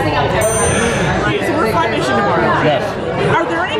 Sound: dinging

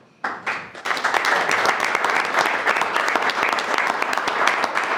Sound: everyone applauds

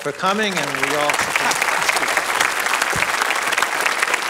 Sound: applause

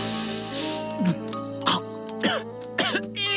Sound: gags and coughs

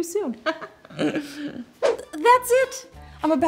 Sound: laughs

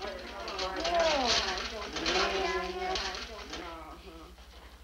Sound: prisoners mumble

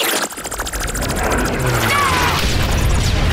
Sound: screaming

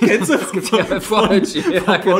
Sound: laughs

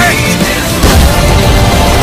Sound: punch and blast

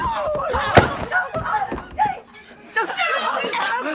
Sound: commotion and shouting

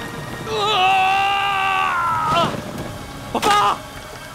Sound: screams

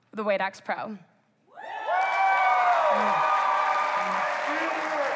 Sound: applause

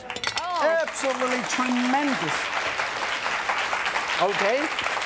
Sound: audience applause

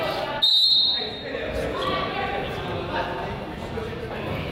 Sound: whistle blows

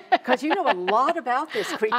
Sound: laughs

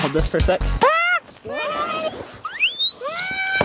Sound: screaming; laughing

